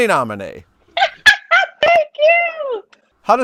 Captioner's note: laughs